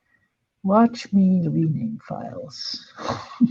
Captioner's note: chuckles